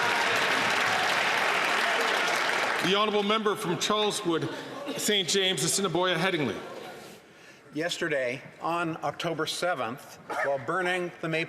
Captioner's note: some Applause